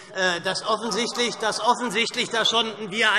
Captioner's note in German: Lachen und Zurufe CDU